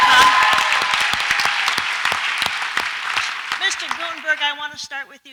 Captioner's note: audience applauds and cheers